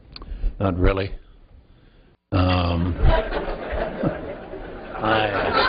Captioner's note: laughter